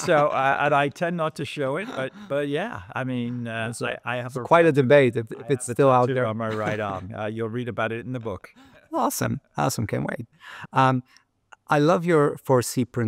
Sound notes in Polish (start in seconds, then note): 6.5 śmiech